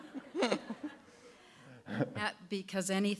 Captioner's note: laughter